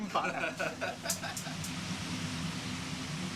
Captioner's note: chuckling